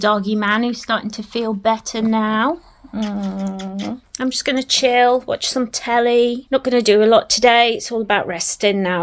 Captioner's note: doggy kisses